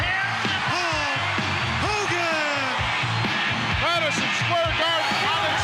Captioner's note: crowd cheers